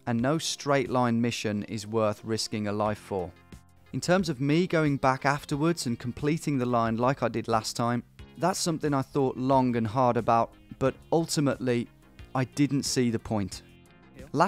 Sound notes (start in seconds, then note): none